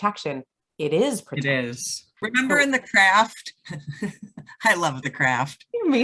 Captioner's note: giggles